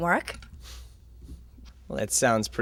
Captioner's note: Tom Sighs